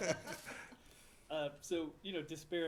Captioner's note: laughter